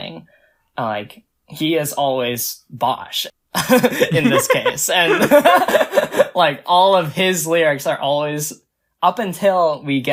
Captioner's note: both laugh